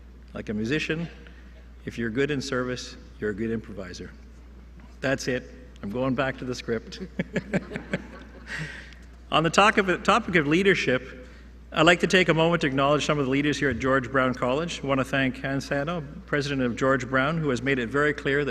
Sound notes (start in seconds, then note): 6.8 laughter